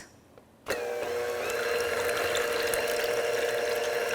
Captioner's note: beater whirring